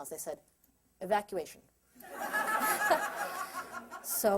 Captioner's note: laughter